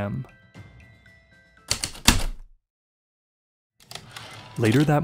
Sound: heavy typewriter keystrokes and slide return

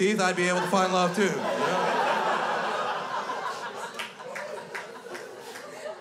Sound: crowd laughs

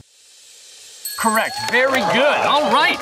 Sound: dinging and cheering

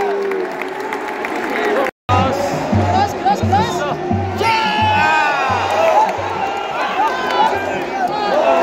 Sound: clap

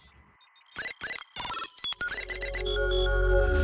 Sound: gadget beeping; gentle music

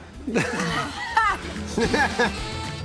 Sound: laughter

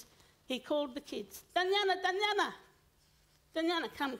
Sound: foreign language

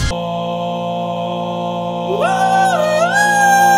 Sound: birds harmonizing

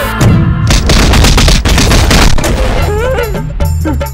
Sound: thumping

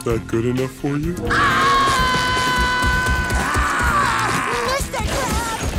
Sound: screaming

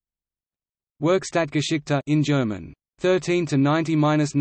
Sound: in German

